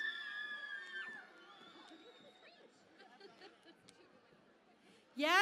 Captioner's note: cheering and Applause